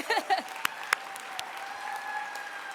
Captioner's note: applause